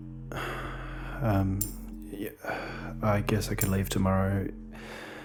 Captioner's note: sighs